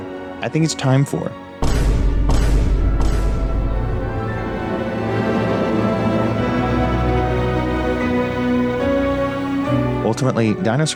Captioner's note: with overly dramatic narration